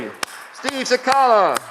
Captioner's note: audience clapping